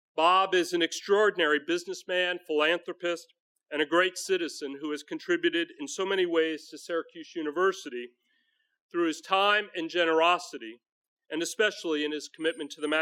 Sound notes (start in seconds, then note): none